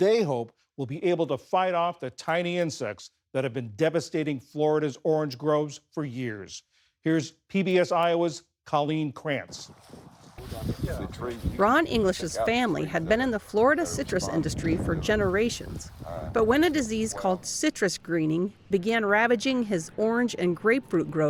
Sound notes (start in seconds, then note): 10.2 voice-over